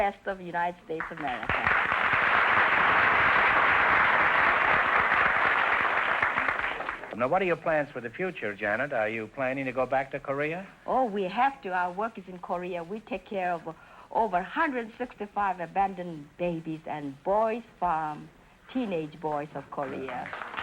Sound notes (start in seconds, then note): 1.0 applause